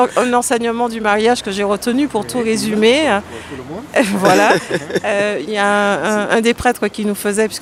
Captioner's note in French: rires